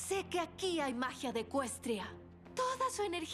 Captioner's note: none